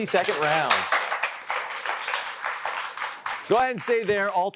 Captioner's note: applause